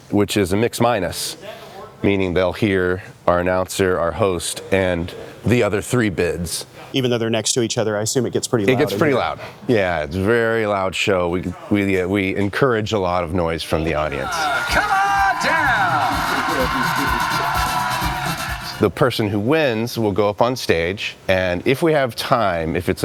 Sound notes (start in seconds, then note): 14.2 audience cheering; 16.1 lively music; 16.1 voice over vocalizing